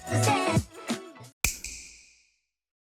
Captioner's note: snap